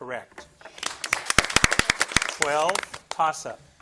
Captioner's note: audience applauding